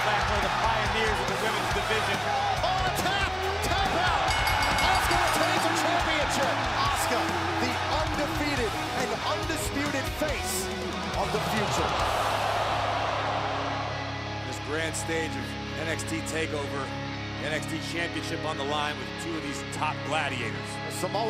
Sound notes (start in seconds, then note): 4.2 bell ringing